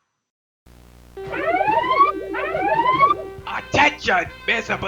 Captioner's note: klaxon sounds